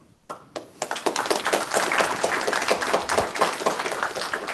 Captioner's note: applause